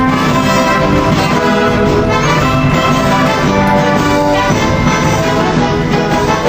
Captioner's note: audience applauding continues